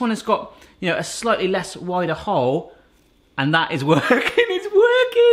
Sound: laughing

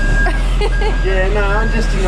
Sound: laughing

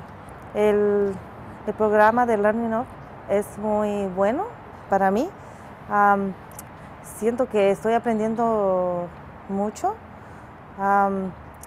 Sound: speaking spanish

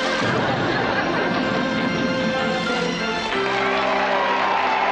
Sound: audience laughter; applause and cheers

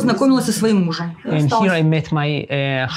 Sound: speaking in foreign language

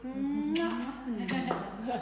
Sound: kissing noises

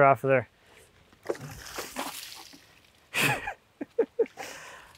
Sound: water sloshes

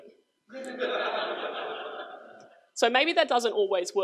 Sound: crowd laughs

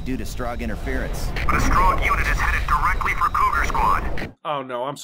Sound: RICHARDS over the radio

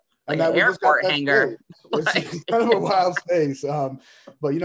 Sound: laughs

